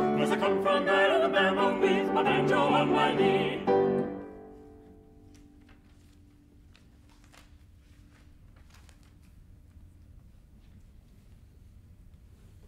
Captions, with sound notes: * 'Cause I come from Alabama with my banjo on my knee * [pages rustling]